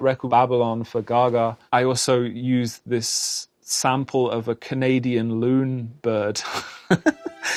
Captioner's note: chuckling